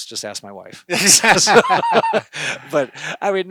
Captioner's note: laughing